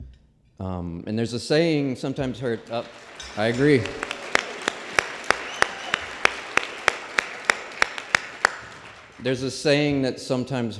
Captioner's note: applause